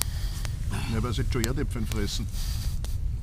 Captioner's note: austrian dialect